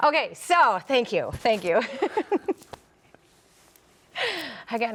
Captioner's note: chuckles